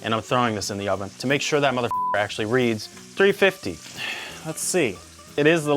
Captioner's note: beep